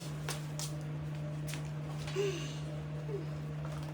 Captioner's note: sigh